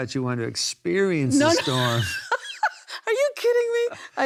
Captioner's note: laughs